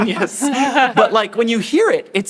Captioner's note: everyone chuckles